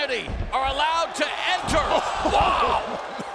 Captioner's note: fans cheering